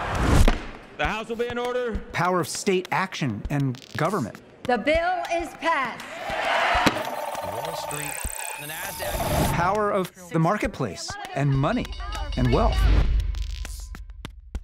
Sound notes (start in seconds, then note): 6.0 all cheering